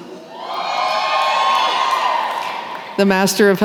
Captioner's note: cheering